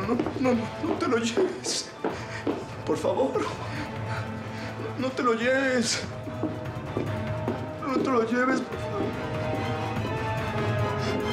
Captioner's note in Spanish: sollozos